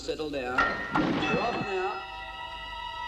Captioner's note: bell dings; tense instrumental music